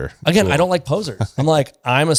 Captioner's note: laughs